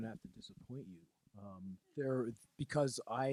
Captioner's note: laughing